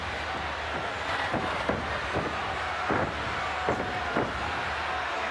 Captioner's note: fists pounding